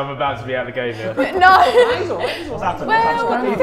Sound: laughs

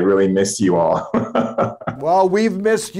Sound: giggling

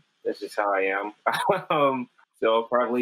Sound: chuckles

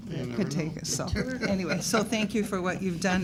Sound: chuckling

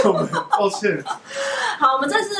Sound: laughing

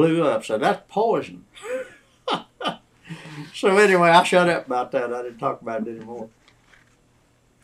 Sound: laughs

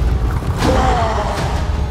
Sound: roars

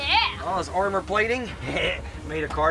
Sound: chuckles

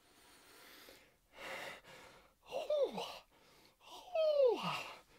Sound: breathes uncomfortably

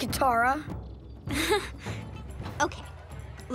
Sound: chuckles

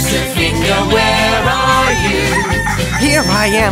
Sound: rooster crowing

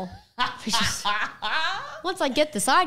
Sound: laughing

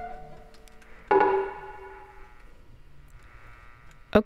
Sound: loud static-y sounds continue throughout

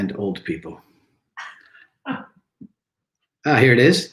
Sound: lady chuckles

